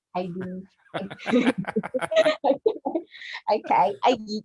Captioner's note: laughs; chuckles